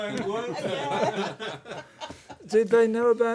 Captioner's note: laughter